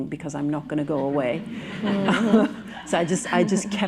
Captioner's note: laughter